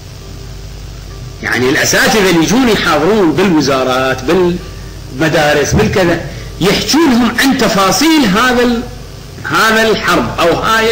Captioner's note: speaker laughs